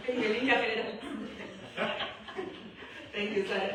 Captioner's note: laughter